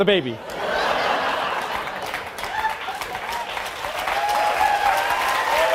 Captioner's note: audience cheering and applauding